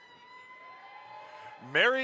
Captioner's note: audience applauds